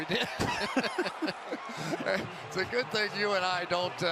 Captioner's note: laughter